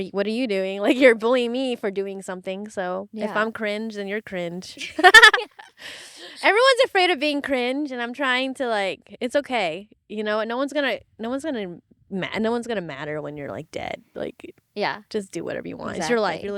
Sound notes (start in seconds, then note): 4.8 laughing